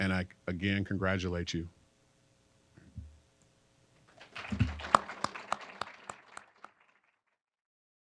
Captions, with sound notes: And I, again, congratulate you. (applause)